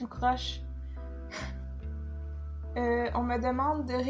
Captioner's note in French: soupir